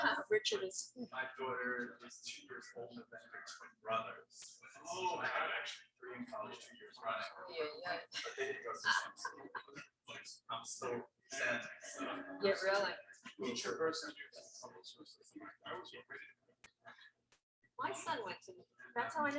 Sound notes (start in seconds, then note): 0.0 woman laughs; 8.1 laughs; 9.3 people chattering indistinctly; 14.1 people chattering indistinctly